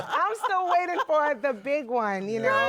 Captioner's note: laughter